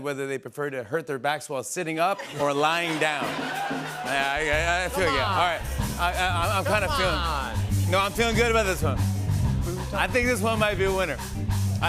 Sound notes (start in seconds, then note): 2.1 laughter